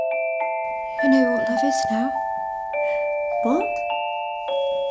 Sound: Bellatrix mumbles

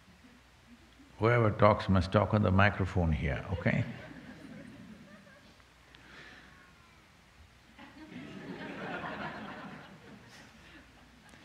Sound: laughter

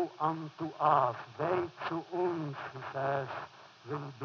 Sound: foreign language

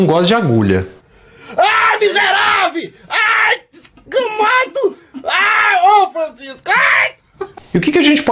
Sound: loud swearing in portuguese

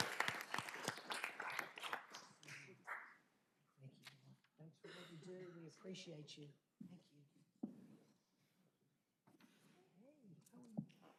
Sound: applause

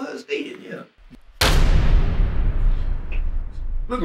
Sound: loud rumbling

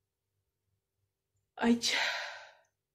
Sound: sigh

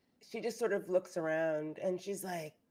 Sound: none

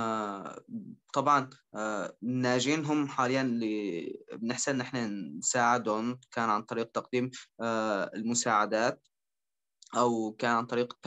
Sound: speaking in Arabic

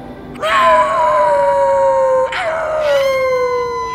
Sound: werewolf howling

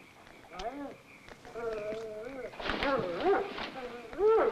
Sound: dog whining

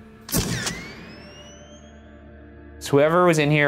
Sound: camera shuttering

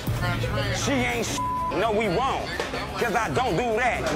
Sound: beep

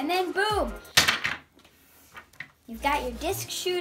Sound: piece clangs

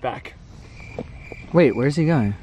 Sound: crickets chirping

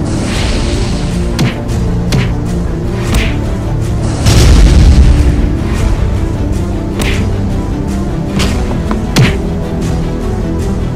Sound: fight scene music; flaming sounds; fight scene music; whooshing sounds; fireball sounds; punching sounds; fight scene music; punching sounds

